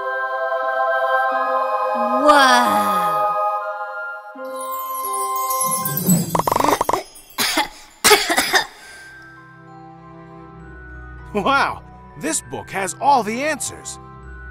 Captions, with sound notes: Wowww (coughs) Wow, this book has all the answers.